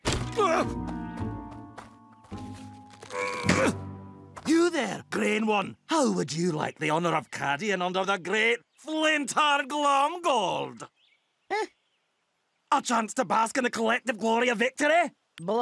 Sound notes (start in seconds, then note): 2.9 straining